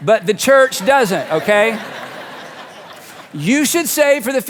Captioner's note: audience laughing